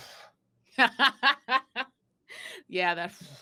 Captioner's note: laughing out loudly